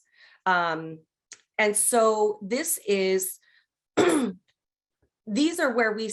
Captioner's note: coughs